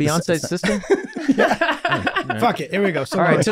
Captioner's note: group laughing